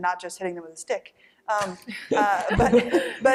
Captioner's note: laughter